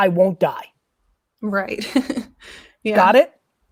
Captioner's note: chuckles